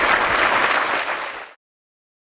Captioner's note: applause